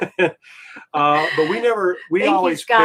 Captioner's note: both giggling